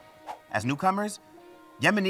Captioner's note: transition whooshes